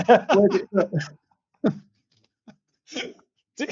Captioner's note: laughter